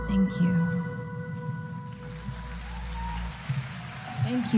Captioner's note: applause